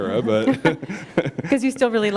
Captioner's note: chuckle